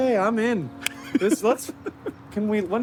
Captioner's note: laughing